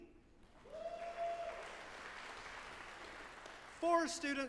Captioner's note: audience applauding